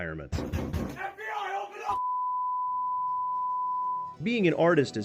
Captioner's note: door Banging